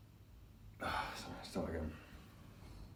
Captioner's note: sighs